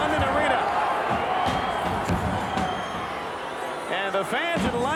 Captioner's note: applause